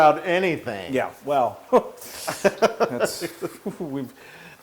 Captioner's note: laugh